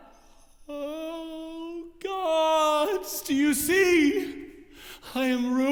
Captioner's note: moans